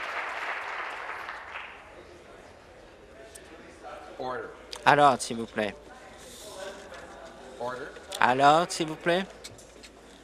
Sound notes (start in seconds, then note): 0.0 applause